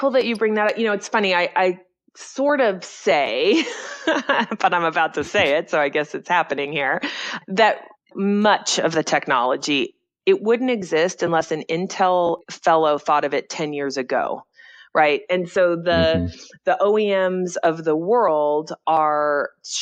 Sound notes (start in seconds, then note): 5.2 laughs